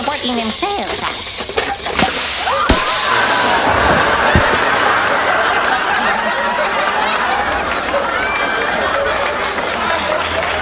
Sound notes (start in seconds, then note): 2.8 audience laughs; 6.5 audience applauds